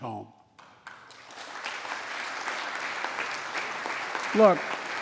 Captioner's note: applause